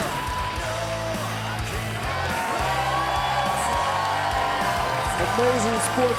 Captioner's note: crowd cheering; rock music